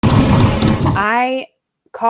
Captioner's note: lightning crackles